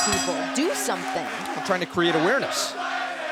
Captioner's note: bell ringing